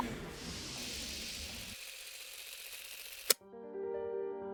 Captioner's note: film reel spinning; dramatic music